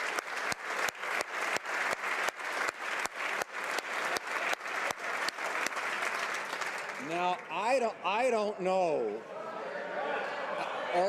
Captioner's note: applause